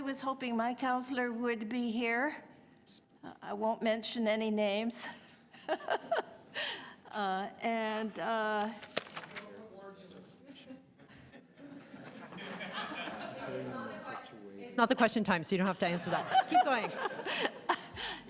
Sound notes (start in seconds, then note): 11.0 laughter